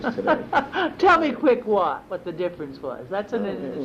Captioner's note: laughs